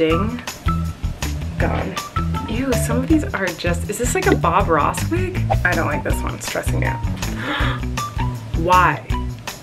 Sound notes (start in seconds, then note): 5.3 whooshing; 7.4 gasping